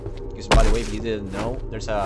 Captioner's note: thump